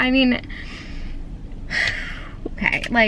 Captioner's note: sharp breath out to try to calm down